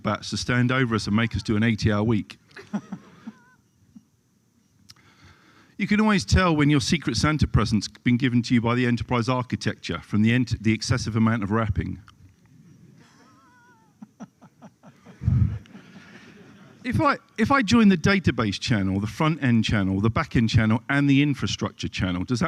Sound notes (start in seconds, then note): 2.5 laughter